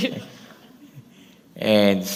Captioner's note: laughter